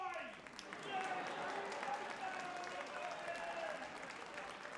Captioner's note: audience applauding